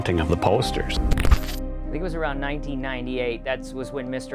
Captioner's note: static sound